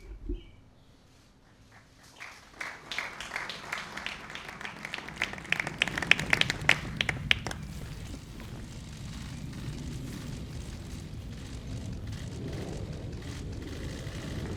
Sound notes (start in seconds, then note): 1.5 applause